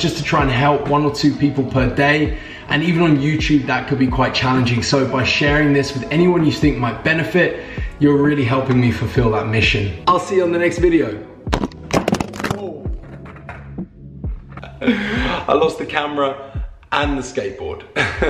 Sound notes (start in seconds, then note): 11.5 camera clatters; 17.6 laughs